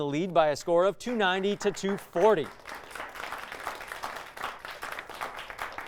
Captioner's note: applause